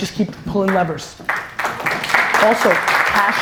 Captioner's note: audience applause